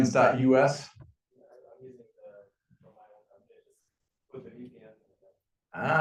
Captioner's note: student speaking faintly